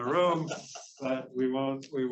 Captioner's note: male laughs